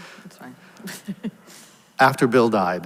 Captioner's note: laughs